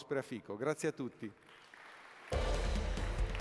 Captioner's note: applause